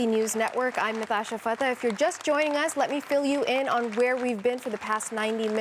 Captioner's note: applause